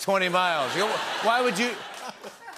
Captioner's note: laughter